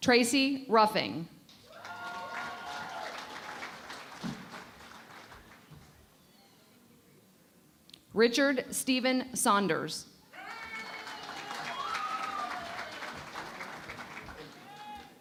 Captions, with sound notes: Tracy Ruffing. [ Cheering and Applause ] Richard Stephen Saunders. [ Cheering and Applause ]